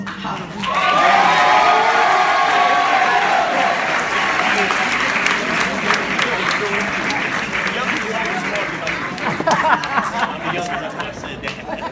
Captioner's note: applause and cheers